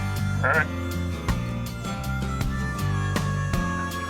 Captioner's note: deer call